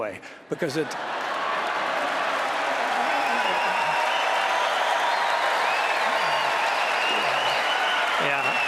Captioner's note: applause